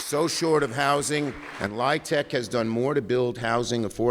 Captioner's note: applause